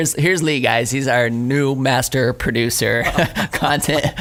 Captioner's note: laughing